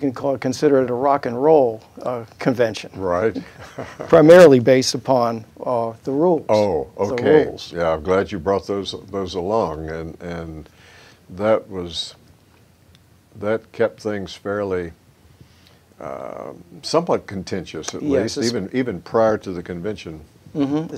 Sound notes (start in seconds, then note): 3.2 chuckles